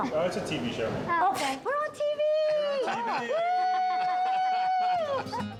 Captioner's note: laughs